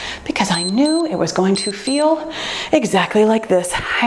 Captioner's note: timer beeps